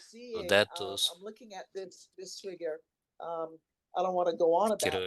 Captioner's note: hablando inglés